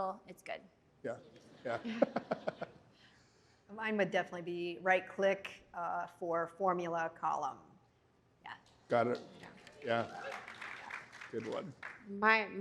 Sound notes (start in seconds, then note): 1.4 laughter; 8.9 applause